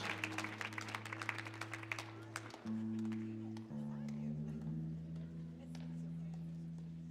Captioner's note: speaks in foreign language; audience chattering; guitar strumming